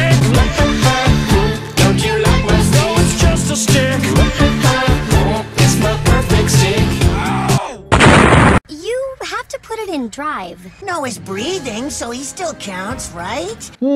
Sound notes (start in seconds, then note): 7.0 Devin rages in anger; 7.9 explosion